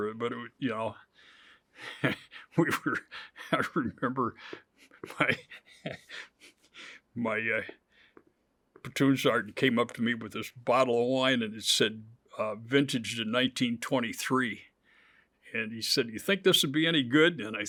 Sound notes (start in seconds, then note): 1.8 chuckles; 4.8 laughs